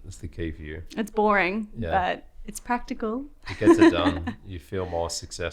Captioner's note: laughs